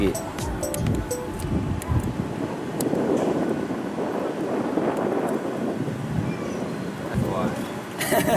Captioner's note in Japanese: 風の音